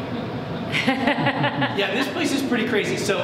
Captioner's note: audience laughs